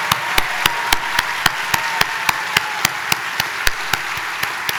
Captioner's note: audience applauding